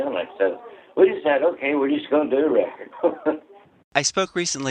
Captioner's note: laughter